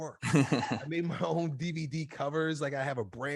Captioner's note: laughs